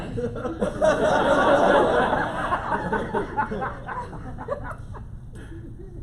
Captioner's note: laughter